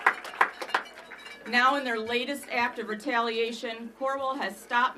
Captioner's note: applause